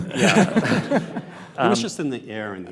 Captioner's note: panelists chuckle